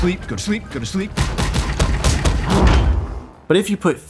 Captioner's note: punching